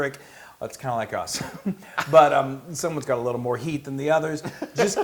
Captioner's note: laugh